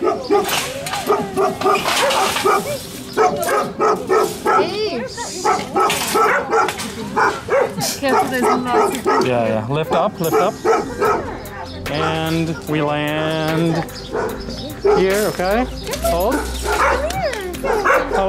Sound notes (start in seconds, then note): 0.0 barks; 5.4 barks; 7.7 giggle